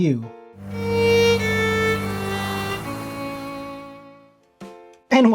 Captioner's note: sad sad noises